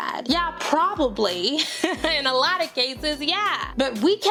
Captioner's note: laughs